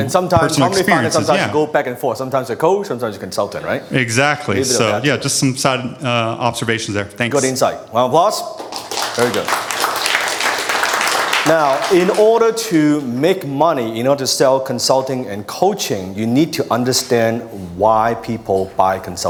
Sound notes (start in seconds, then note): 8.5 audience applauding